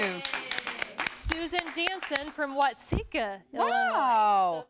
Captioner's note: �applause�